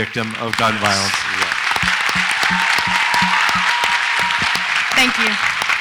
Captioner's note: audience applauds and cheers